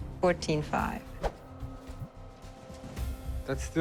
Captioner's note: swoosh